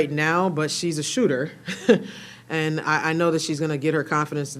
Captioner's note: chuckles